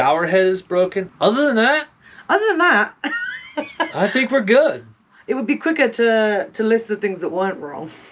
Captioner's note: laughter